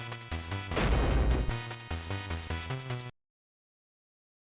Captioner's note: thud